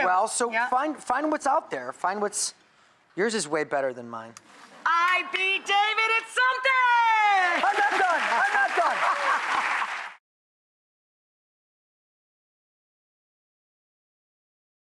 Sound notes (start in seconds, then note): 7.2 audience cheers; 7.5 laughs